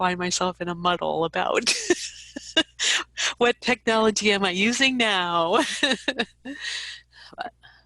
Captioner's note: laughs